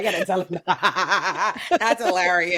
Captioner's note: laughing